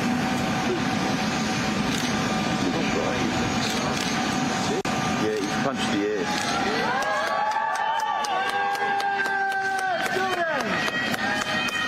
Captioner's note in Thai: ปรบมือ